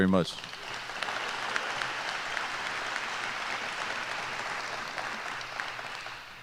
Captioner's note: applause